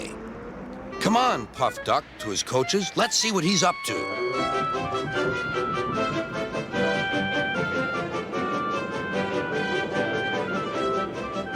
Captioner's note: duck whistles and puffs away